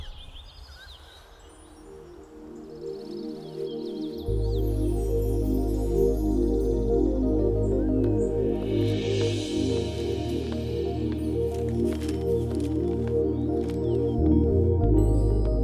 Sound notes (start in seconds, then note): 0.1 Birds chirping; 8.4 Footsteps; 9.3 Paper ruffling